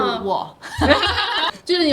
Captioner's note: laughter